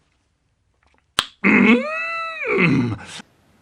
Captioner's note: click